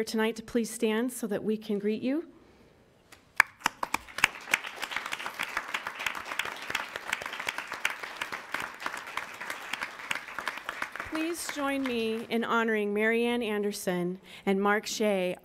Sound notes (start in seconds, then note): 3.5 applauding